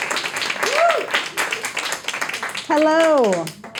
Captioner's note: audience applauding, cheering